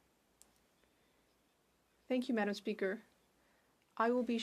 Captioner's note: speaking French